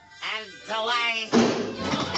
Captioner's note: nasally; thud!; wood chopping